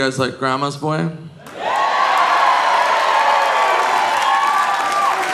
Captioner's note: audience cheering